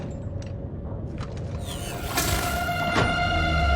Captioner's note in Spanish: zumbido de electricidad